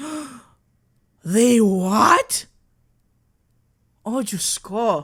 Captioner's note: sharp intake of breath